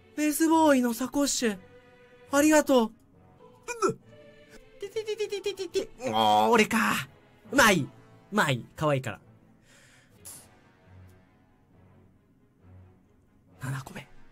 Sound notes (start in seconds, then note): 5.9 grunts